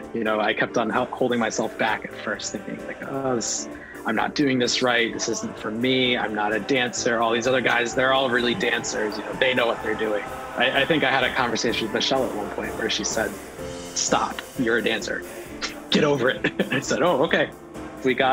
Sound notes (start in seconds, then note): 16.2 laughter